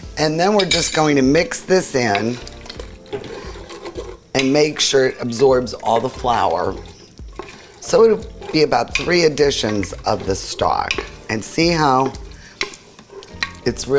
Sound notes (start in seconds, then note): 2.7 cutlery clattering